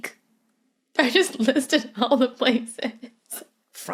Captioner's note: giggles